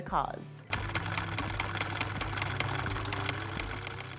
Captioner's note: machine clicking